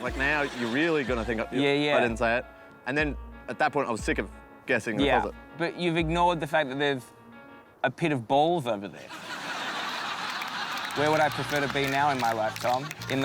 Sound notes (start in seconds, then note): 9.0 laughter